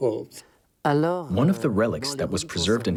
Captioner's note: speaking in foreign language